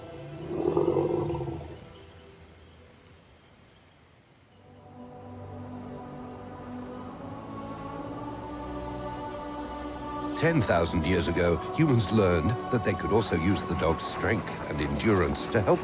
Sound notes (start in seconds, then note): 0.4 elephant grunting; 5.8 dramatic music